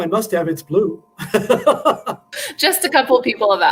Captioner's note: laughter